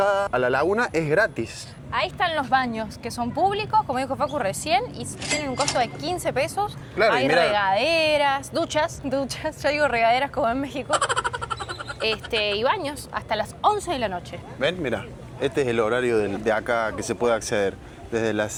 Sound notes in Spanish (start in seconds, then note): 10.9 risas